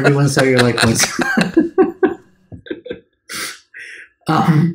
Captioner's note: laughs